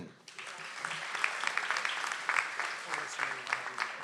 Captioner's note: audience applauds